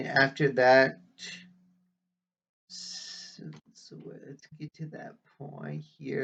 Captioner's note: whispering